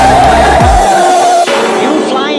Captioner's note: bang!